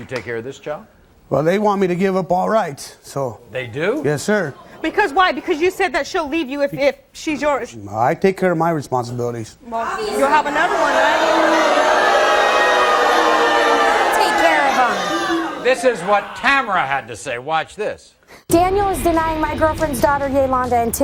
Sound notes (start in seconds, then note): 11.8 audience booing